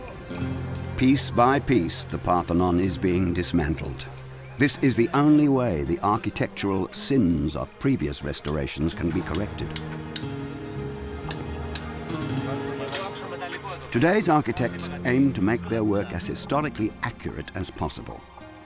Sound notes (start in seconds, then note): 9.9 chisel clinking; 9.9 speaking in Greek